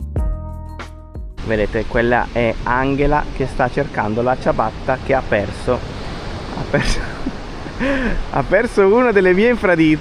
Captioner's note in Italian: risate